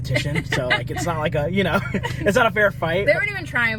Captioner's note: laughing